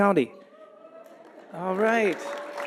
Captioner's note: audience applauding